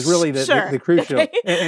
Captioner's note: laughs